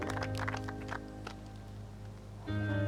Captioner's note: applause